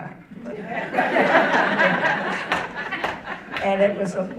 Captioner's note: audience laughing